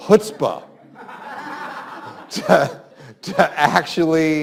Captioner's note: students laugh